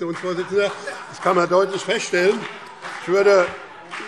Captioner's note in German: Heiterkeit und Beifall BÜNDNIS 90/DIE GRÜNEN